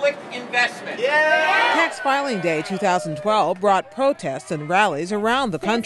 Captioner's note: cheering and applause